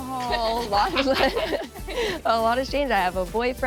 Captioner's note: laughs